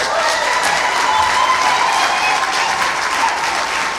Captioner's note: cheering, applause